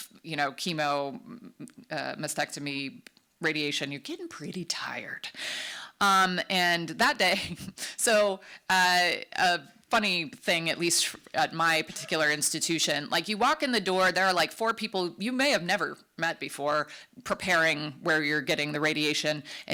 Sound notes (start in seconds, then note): 8.2 chuckles